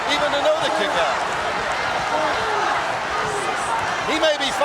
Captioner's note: audience cheering